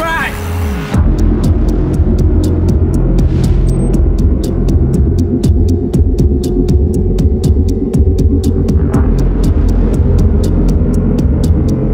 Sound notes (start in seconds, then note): 1.0 clock ticking; 2.0 dramatic music